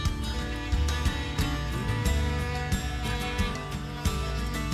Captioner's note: grinder buzzing